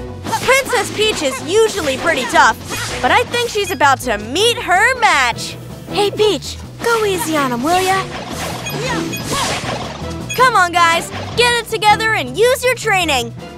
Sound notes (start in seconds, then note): 0.3 characters exclaiming throughout; 5.7 whispering